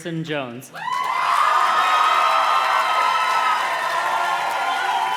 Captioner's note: audience cheers and claps